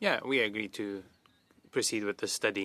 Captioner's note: speaking in French